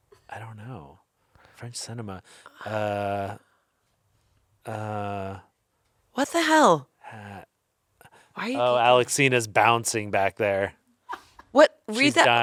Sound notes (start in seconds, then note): 8.4 faintly speaking